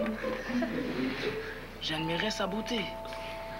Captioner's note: Rires